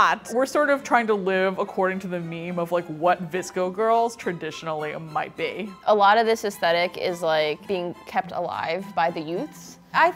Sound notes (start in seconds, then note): none